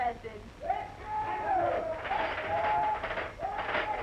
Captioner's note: crowd shouting